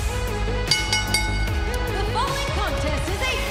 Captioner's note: bell ringing